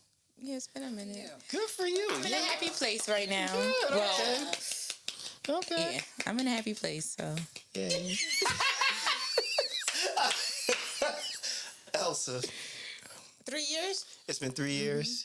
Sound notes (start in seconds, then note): 8.1 laughter